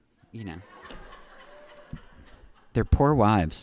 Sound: audience laughing

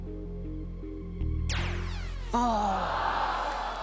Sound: zap; audience groans

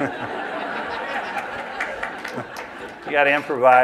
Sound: laughter

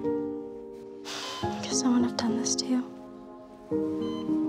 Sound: sighs

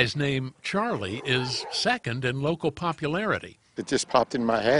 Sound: laughing

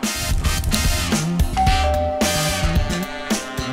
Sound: doorbell rings

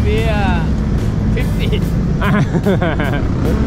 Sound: haha!

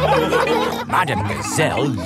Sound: laughing

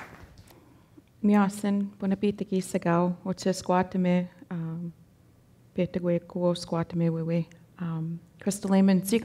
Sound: speaking Danezaa

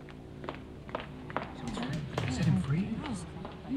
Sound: people chattering quietly

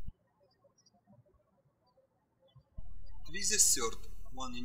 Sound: birds chirping

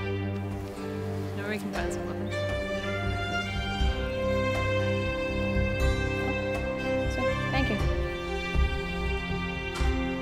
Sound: Mirielle and Villager talking

